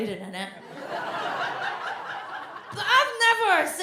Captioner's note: audience laughs